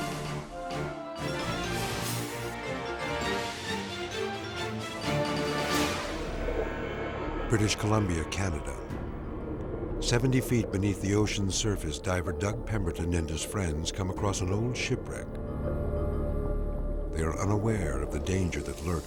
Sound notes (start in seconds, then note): 6.0 scene swooshing